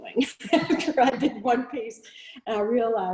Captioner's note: both laughing